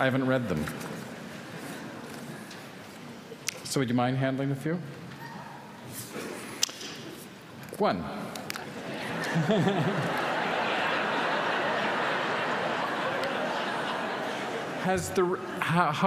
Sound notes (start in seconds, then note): 8.8 laughs; 11.1 laughter